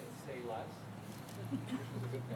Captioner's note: laughter